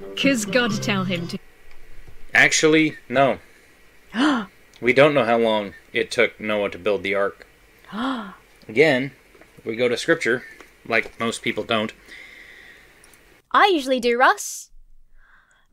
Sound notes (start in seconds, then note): 4.0 gasps; 7.9 gasps